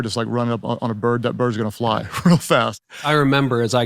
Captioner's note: laughing